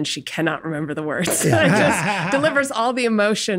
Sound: group laughs

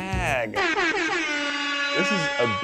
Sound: horn alarms

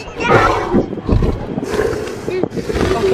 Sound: dino breathing

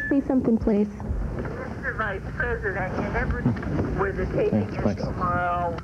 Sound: tape continues to play, not Morrow's voice

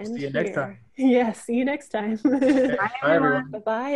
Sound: laughs

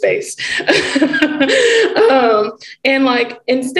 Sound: laughing

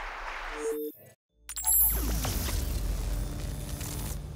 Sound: audience applauding

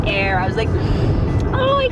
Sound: inhales

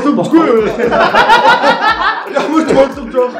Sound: laughter

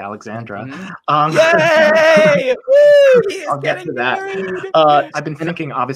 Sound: cheers

